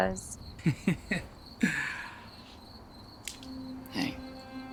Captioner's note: Peter laughs